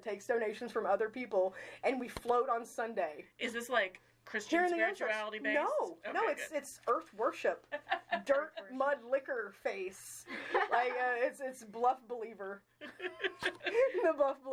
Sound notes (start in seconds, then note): 7.7 chuckling; 10.3 laughing; 12.8 all laughing